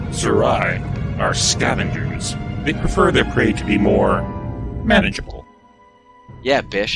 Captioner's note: Bishop - Male Borg Voice